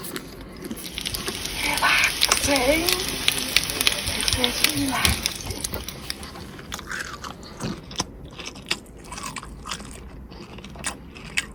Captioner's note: sizzling with creepy voice in the background